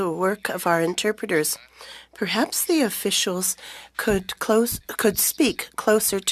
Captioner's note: speaking French